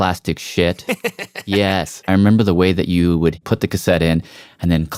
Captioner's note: laugh